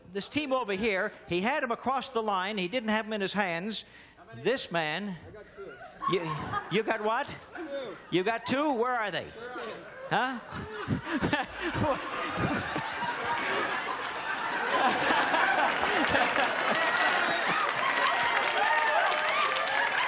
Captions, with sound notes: This team over here, he had them across the line, he didn't have them in his hands. This man -- -I got two. -You've got what? -Two. -You've got two, where are they? -Where are they? -Huh? -(laughing) (applause)